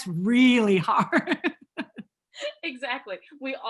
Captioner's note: laughing